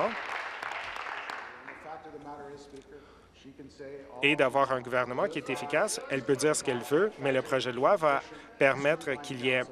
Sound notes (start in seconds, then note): 0.0 applause